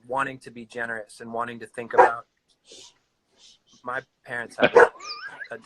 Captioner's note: dogs bark